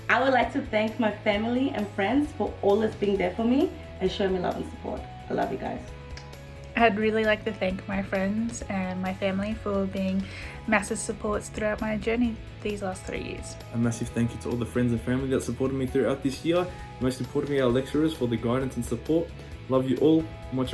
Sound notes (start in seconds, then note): 6.1 smacks lips